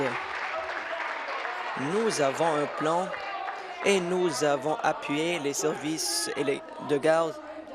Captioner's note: applause